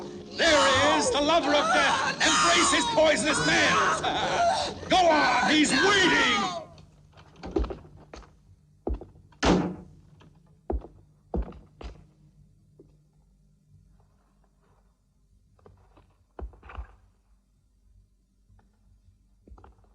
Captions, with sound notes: There he is, the lover of death! Embrace this poisonous man! Go on, he's waiting! (footsteps thumping)